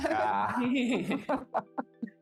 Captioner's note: laughing